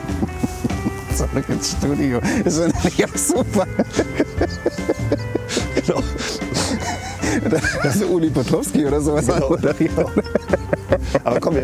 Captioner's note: laughs